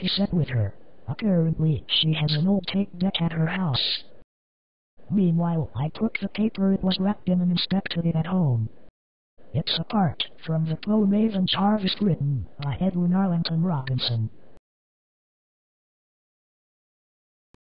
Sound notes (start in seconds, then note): none